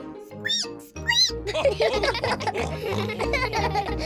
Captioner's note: squeaks; all giggle